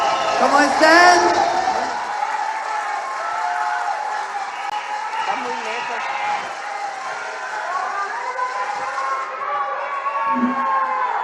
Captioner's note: applause